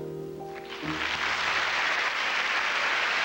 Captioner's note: applause